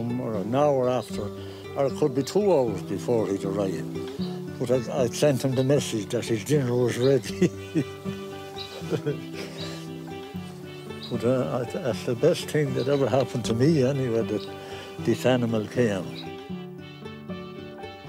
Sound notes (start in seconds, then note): 7.1 chuckles